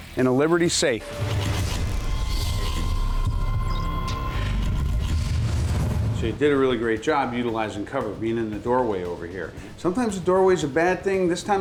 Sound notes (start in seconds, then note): 0.8 high-tech mechanical sounds